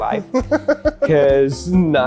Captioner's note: laughs